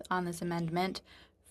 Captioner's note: speaking French